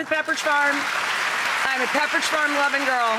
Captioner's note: applause